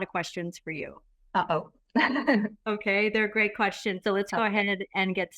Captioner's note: laughter